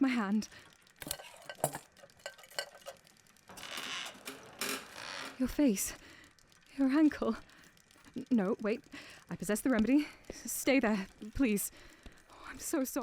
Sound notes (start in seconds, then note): 0.0 stammers; 1.0 metal rustles; 3.5 cart creaks